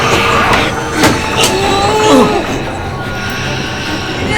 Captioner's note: grunting